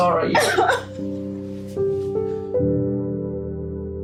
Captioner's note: sobbing